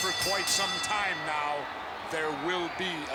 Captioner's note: ring bell clanging